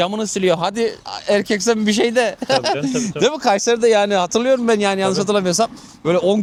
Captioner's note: laughs